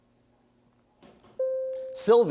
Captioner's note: bell rings